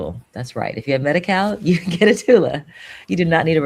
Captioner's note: chuckles